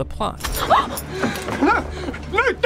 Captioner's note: Elizabeth gasps